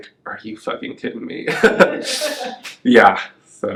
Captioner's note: laughs